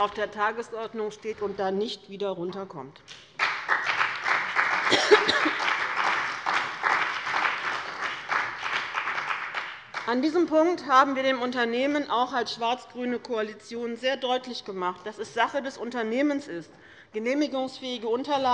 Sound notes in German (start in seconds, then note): 3.1 Beifall bei dem BÜNDNIS 90/DIE GRÜNEN und der CDU